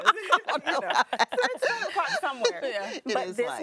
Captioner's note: laughing